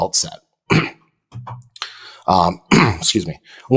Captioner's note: clears throat